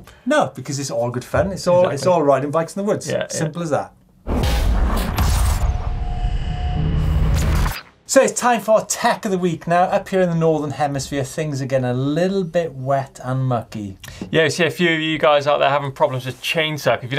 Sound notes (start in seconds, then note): 4.3 percussive rumbling